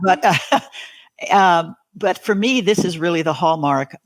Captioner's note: laughs